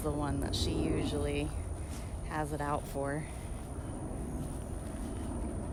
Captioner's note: airplane